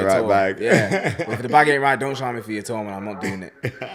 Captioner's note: laughs